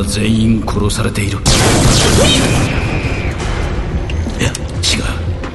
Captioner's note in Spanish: disparos de blaster y gritos